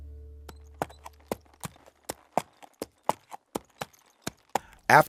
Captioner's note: horses feet clomping